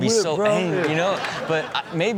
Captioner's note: audience laughs